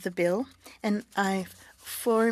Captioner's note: speaking French